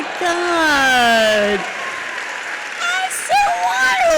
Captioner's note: audience applauds